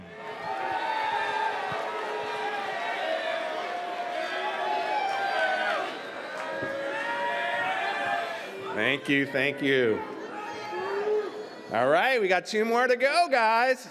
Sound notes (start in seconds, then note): 0.1 audience cheers; 3.8 chanting